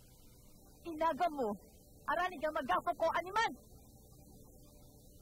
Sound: speaking language

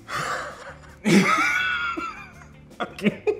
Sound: laughs

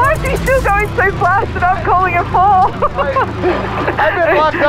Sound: laughing

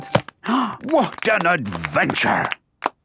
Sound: applause

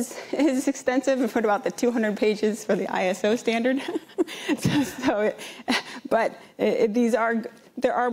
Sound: laughs

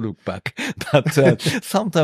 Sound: laughter

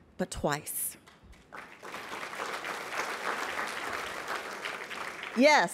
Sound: applause

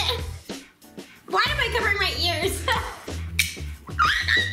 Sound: laughing

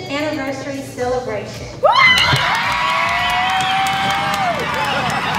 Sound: applause

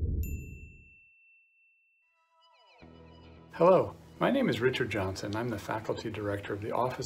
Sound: Bell dings with appearance of Destination Harper

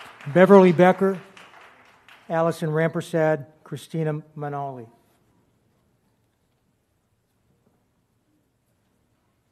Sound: applause

